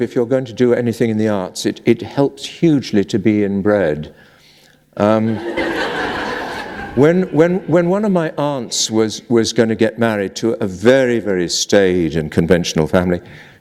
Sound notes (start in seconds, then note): 5.3 laughter